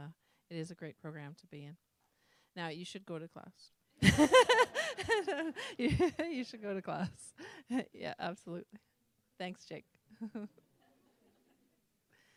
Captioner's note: laughter